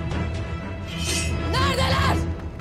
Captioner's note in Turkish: Kılıç sesi